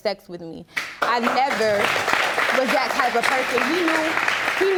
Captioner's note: audience applauding